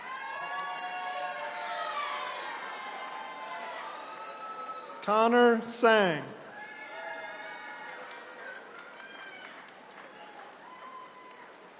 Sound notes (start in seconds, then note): 0.1 attendees cheering; 6.7 attendees cheering